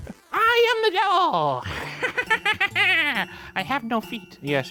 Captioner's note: evil laugh